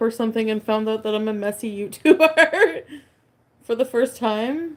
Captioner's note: laughs